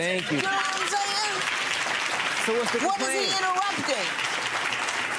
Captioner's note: audience clapping